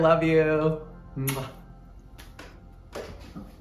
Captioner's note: kissing